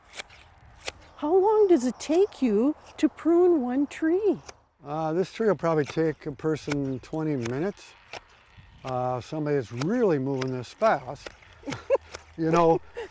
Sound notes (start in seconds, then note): 10.4 clippers snipping rapidly; 11.6 laughs